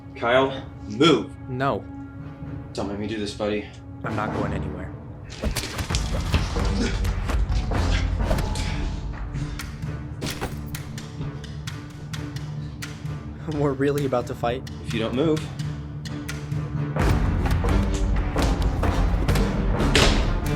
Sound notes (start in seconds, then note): 5.4 arms thudding; 8.5 dramatic music; 16.6 dramatic music; 17.8 blows striking; 20.3 dramatic music